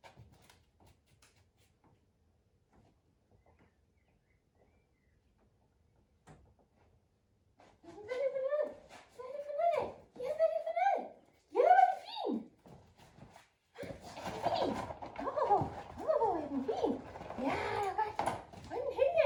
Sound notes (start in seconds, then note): 13.9 rattling the prey-dummy